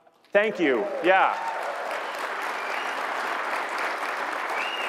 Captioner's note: applause